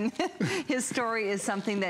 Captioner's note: laughter